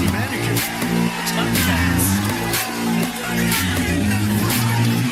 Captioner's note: Aplauze